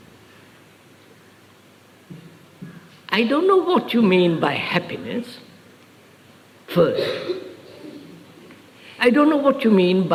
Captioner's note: laughs